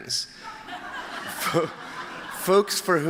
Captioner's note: laughter